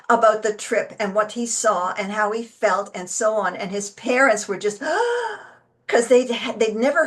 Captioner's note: gasps